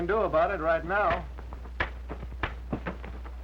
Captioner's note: popping